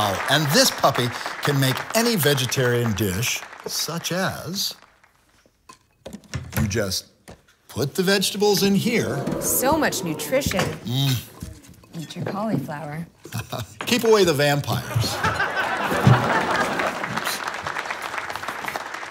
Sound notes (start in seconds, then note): 13.2 chuckling; 14.9 audience laughs and applauds